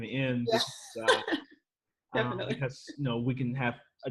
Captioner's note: chuckles